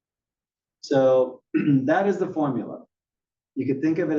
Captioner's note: cough